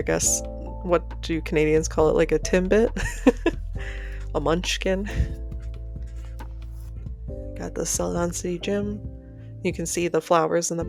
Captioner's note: laughter